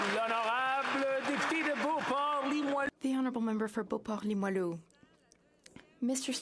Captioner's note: some Applause